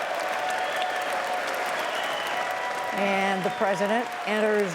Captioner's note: cheering and applause